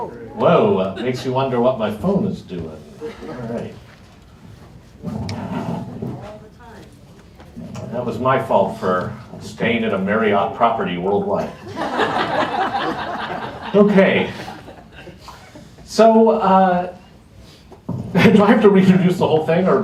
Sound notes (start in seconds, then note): 11.4 laughter